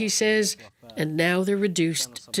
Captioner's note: foreign language